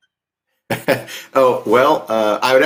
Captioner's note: chuckles